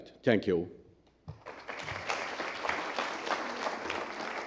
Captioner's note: applause